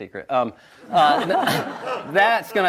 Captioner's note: audience laughs